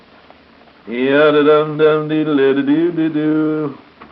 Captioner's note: humming